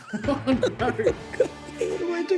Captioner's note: laughter